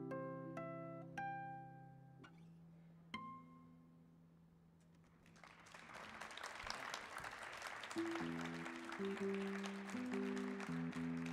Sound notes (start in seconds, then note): 5.2 audience applauding; 8.0 guitar strumming